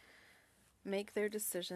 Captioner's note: speaking French